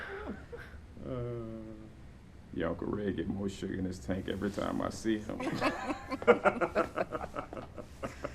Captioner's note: laughter